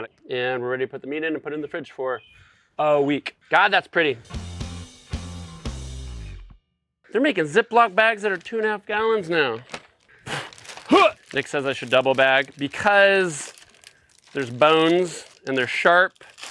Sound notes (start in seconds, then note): 4.3 upbeat rock music; 10.3 grunts